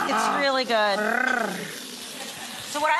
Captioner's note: purrs